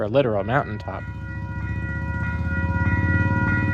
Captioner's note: crossing bells begin